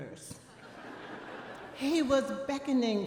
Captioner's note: audience laughing